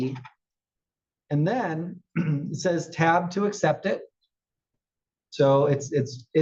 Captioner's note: cough